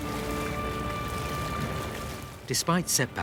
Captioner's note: water babbling